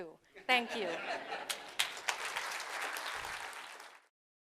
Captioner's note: crowd laughs and applauds